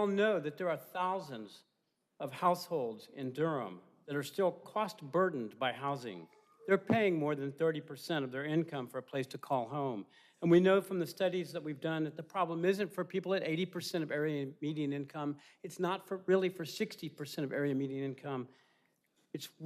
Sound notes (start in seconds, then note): none